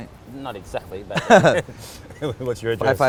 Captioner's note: laughs